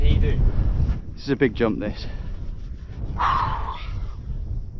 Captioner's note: exhales